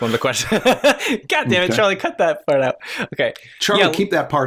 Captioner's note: laughter